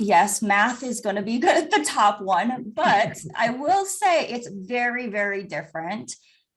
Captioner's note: chuckles